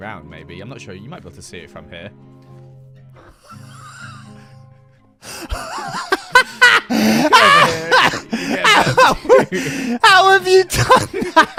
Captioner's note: laughs incredulously